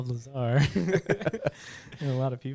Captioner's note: laughing